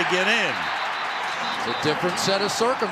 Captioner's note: whistle